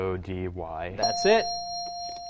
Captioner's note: dinging